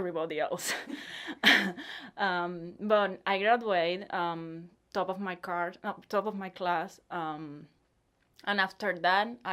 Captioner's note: laughs